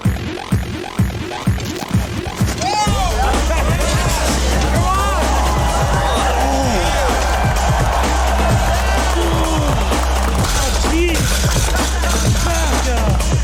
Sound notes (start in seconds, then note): 0.1 upbeat electronic music; 2.7 people yelling; 4.5 people cheering; 4.5 upbeat music; 6.7 trainee grunting; 7.6 people clamoring; 7.6 upbeat music; 11.1 barbell clanging